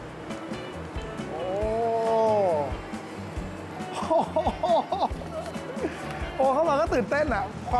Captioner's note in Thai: เสียงดีใจ